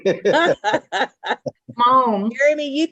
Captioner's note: laughs